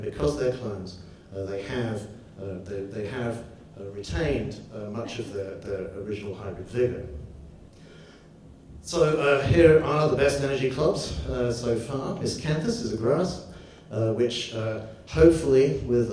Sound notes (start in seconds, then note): none